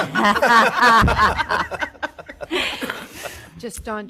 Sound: everyone laughing

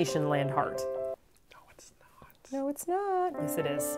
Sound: whisper

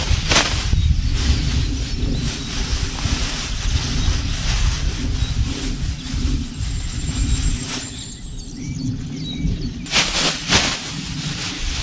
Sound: bird sounds

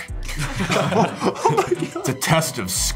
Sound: laughter

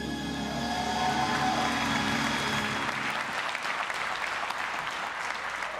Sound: audience cheering and applauding

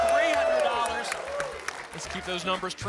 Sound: applause

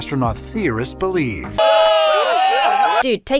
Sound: crowd cheers

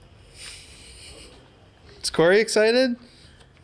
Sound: snickering

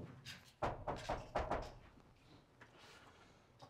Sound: Steven knocking

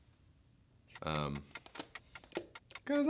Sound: ticking

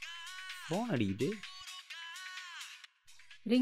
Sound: phone ringing " "

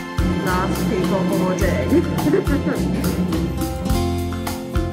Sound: laughs; lighthearted guitar music

